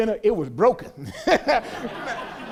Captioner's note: laughs